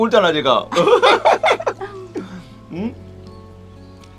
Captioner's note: both laughing